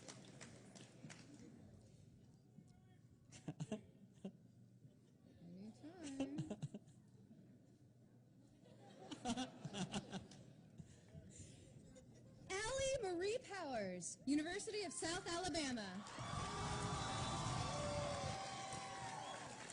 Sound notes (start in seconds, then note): 8.6 laughter; 12.1 laughter